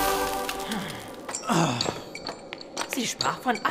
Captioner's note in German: Arthur und Gawain seufzen